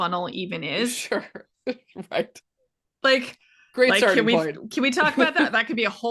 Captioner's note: laughing